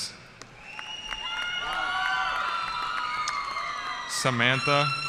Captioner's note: cheering